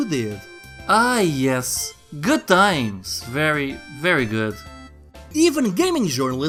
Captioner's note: sarcasm ensues